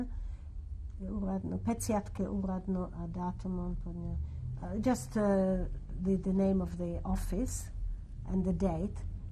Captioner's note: non-english speech